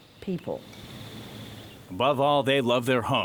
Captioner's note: birds chirping